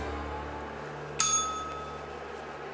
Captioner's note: bell rings